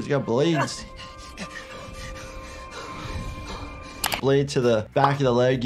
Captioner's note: heavy breathing